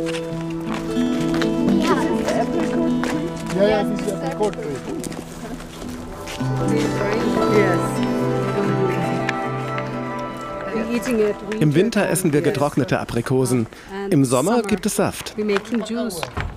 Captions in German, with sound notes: (Verträumte Musik) This is the apricot tree? Yes, it's the apricot tree. (Verträumte Musik) (englisch:) Im Winter essen wir getrocknete Aprikosen. Im Sommer gibt es Saft.